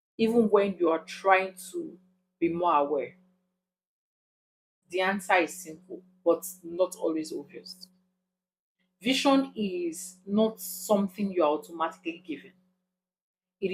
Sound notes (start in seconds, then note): 6.0 paause; 8.2 paause; 13.5 paause